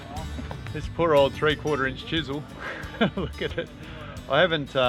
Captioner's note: laughs